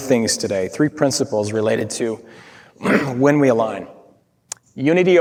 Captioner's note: clears throat